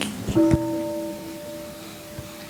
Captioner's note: gong